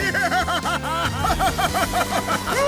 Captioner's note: maniacal laughter